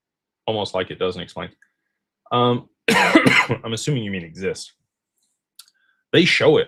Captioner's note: cough